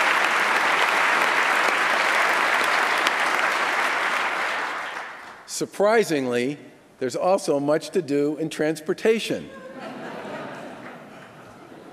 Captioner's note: applause